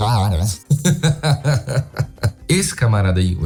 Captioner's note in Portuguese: risos